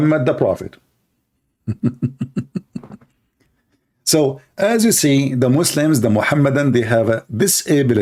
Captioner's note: Ketawa